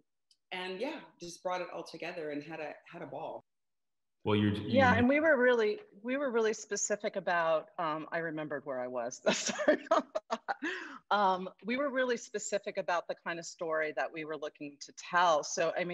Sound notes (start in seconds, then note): 9.4 laughing